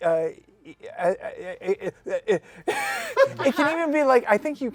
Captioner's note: laughs; stammers